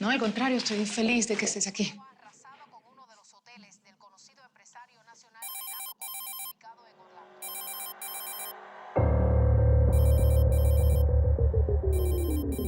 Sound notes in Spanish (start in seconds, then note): 3.4 Voz en la tv; 7.4 Suena el celular